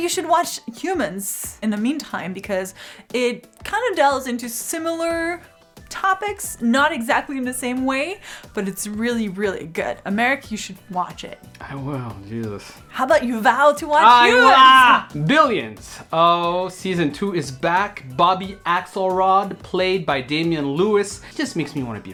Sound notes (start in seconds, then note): 14.2 Americ groans